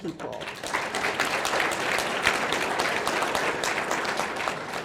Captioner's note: audience clapping